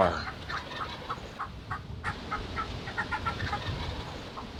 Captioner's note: turkey calling